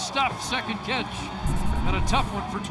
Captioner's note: whistle